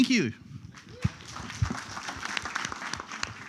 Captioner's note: applause